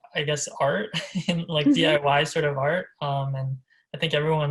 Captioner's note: laughs